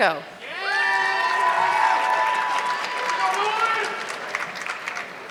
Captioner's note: audience clapping